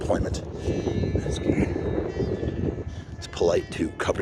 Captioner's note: wind blowing